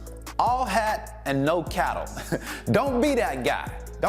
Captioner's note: chuckles